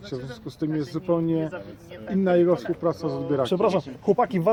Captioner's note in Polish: głosy rozmowy w tle zagłuszają nagranie